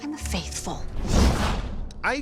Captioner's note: whoosh